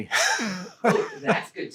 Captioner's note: laughing